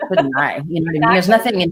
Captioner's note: laughs